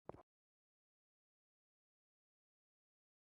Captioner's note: none